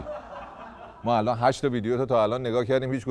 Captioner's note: laughter